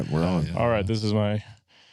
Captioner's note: laughter